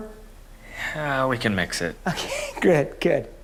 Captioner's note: sighs